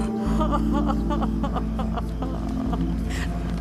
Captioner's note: sobbing